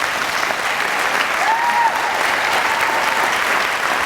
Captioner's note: audience applauding